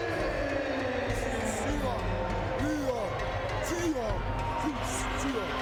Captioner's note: Meng speaking in Japanese